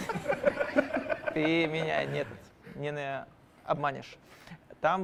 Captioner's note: laughter